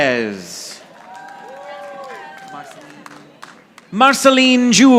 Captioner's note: audience applauding